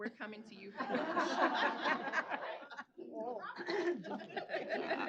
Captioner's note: laughter